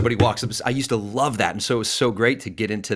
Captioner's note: banging on desk